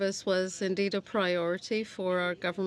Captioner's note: speaking French